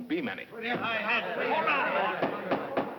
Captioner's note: angry discussion